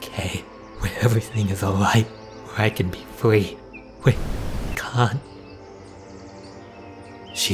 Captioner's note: static